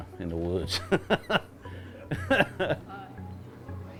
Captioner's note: laughing